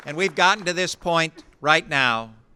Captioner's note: applause